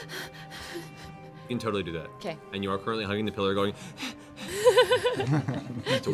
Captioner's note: panting; panting